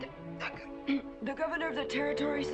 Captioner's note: stuttering